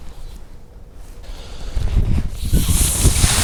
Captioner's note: breath